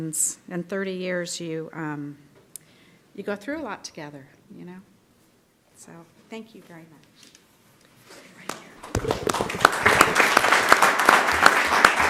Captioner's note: clapping